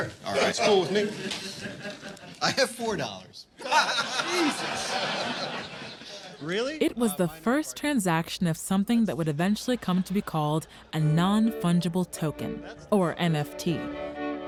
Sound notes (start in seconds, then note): 3.5 laughter